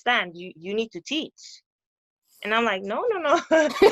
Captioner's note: laughter